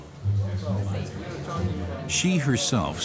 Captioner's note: indistinct chatter